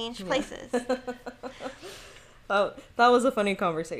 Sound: laughing

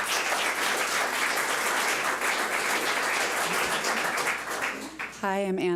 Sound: public applauding

